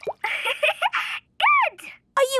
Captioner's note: giggling